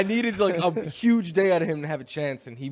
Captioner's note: laughter